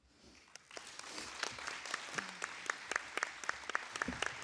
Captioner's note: audience applauding